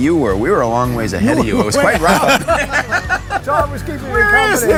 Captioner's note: laughing